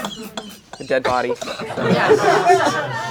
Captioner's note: crowd laughing